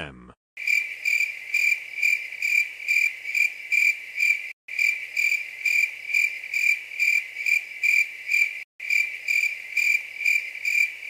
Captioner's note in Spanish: grillos